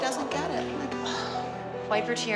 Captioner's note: sighs